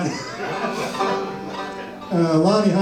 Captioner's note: audience laughs